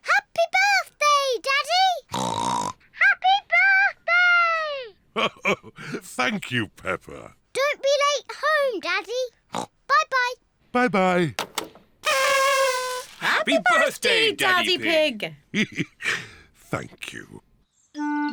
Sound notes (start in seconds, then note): 2.1 oinks; 5.2 chuckles; 9.5 oinks; 12.0 kazoos trumpet; 15.5 chuckles